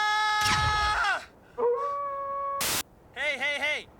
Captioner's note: animal howls